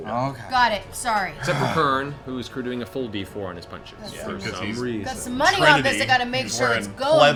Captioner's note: laughs